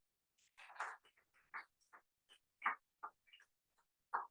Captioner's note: applause